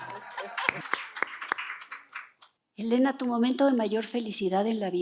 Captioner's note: risas